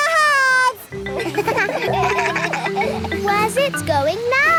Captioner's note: kids laugh